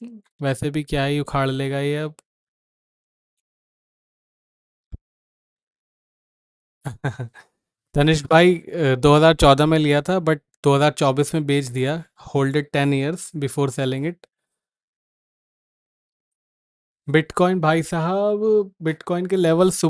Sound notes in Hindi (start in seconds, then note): 6.8 हंसी